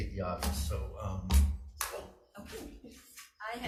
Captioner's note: claps